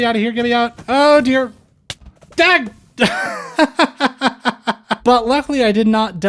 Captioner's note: laughter